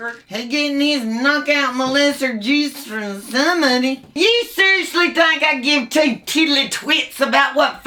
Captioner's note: none